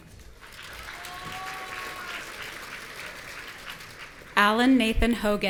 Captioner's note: audience cheering